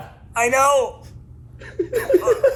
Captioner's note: laughs